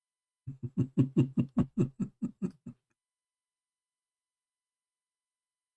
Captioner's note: Ketawa